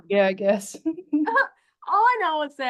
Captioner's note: they giggle